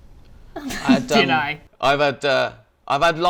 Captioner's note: laughs